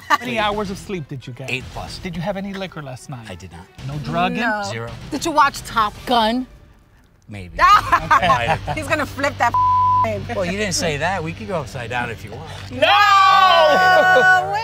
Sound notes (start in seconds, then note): 7.6 all laughing